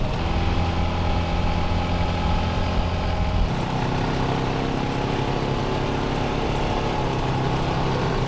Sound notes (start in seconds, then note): 0.0 car whirring